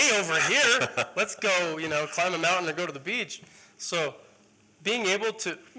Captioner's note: laughter